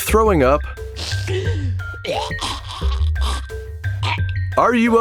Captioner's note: vomit sounds